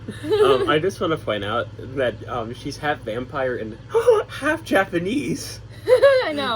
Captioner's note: gasps